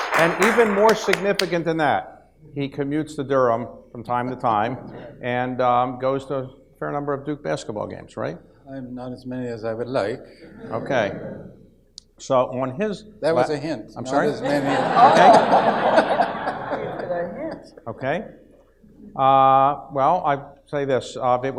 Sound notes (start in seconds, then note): 10.3 audience laughs; 14.2 audience laughs